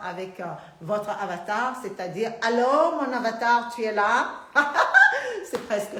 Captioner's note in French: Rires